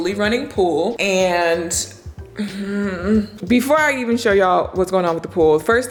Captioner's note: groans